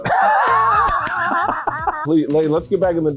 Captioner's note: laughs